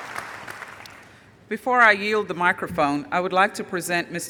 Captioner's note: applause